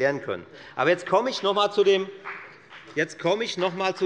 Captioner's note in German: Beifall bei Abgeordneten der FDP